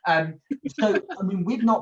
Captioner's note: chuckles